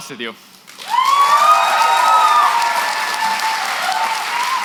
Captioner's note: cheering, applause